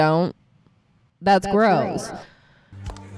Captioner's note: echos